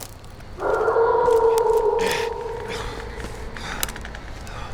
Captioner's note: werewolf howling continues